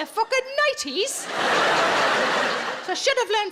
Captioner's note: audience laughing